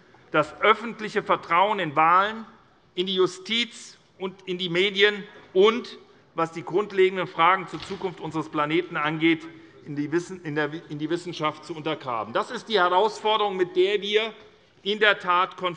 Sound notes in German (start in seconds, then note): none